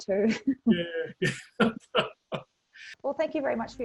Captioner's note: laughs; chuckles